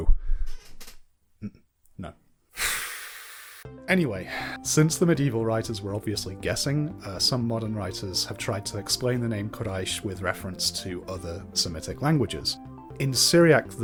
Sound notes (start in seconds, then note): 2.6 sighs